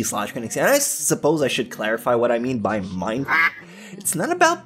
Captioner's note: quack